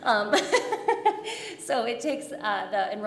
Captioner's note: jovial laughter